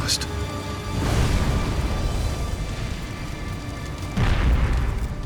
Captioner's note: flames roaring; explosion booms